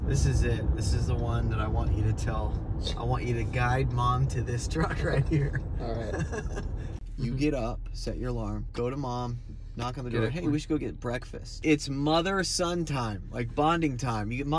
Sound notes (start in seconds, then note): 5.2 laughs